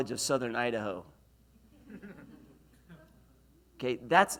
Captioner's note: laughs